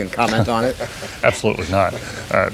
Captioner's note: laughter